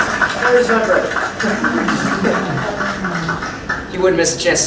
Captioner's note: laughter